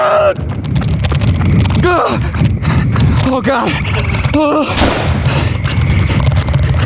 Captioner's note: gasping; sound of shot fired